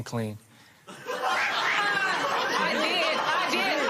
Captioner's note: laughter